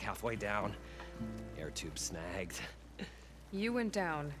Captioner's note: laugh